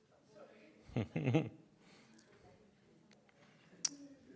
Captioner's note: chuckles